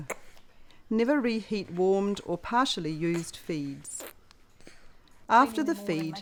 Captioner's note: sounds of baby sucking; sounds of baby sucking